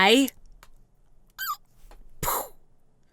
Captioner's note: makes gun noise; squeaks